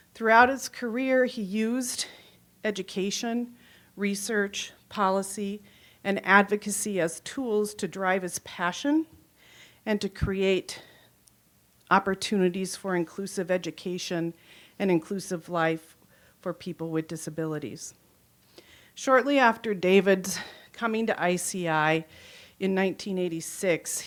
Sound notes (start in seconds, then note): none